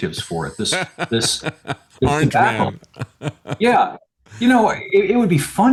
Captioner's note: laughing